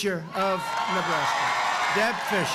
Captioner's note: applause